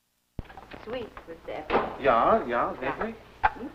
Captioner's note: foreign language